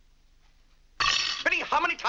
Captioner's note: silverware clattering